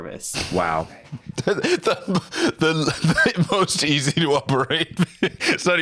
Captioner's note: laughing